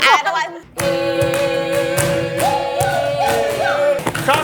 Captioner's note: chanting noises